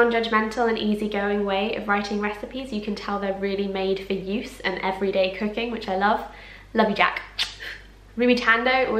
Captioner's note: kiss